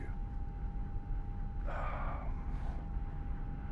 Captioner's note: sighs